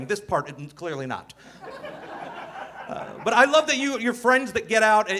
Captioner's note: audience laughing